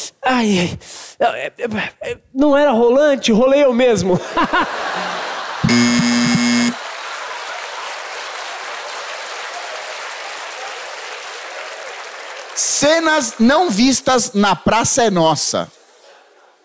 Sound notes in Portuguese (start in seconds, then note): 5.7 campainha